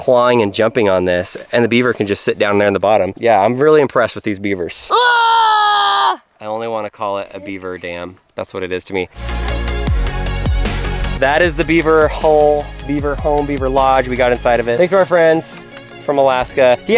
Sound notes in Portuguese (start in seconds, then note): 4.8 gritos; 9.1 música com batida